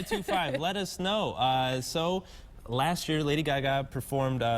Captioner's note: laughter